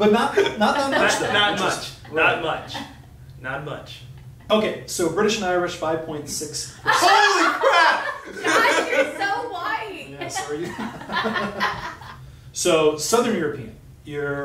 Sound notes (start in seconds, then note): 8.3 jazz off screen; 10.0 laughing